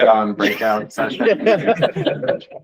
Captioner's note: laughter